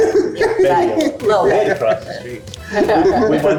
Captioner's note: group laughing